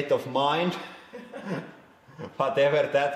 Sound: both: chuckling

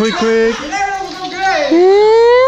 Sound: man yelling in foreign language

